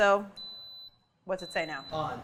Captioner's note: beeping from multi-cooker